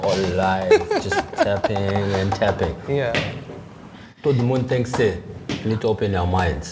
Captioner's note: laughter